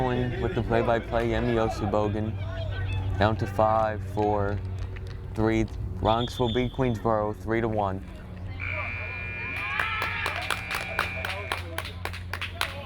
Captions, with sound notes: and with the play-by-play, Yemi Osibogun. Down to 5-4-3. Bronx will beat Queensborough, 3-1. (buzzer)